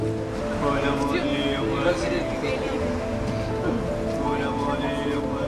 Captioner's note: speaking in a foreign language